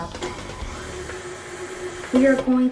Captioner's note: mixer buzzing